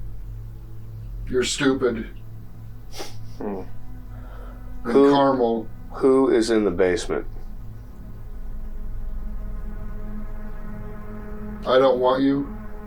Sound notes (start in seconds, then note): 2.9 chuckling